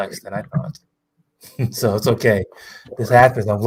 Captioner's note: laughs